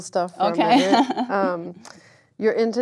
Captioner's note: laugh